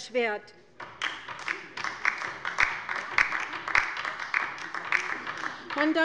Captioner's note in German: Beifall bei der LINKEN